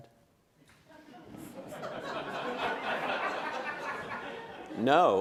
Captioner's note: laughter